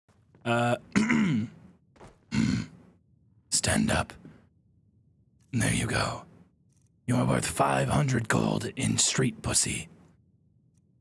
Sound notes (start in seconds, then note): 0.6 clears throat; 2.3 Clears throat but in a weird Yoda kind of way; 3.5 in gravely deep voice